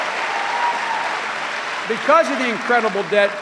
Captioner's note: cheering and applause